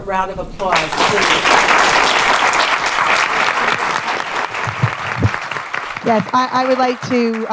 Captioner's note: applause